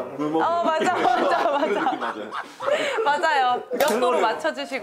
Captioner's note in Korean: 폭소